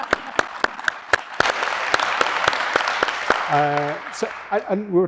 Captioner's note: audience applauding